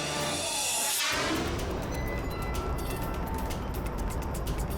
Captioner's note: scene swooshing